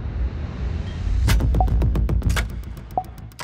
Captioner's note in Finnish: Ilmoituksen merkkiääni